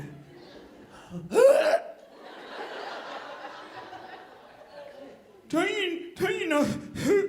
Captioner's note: dry retching; audience laughing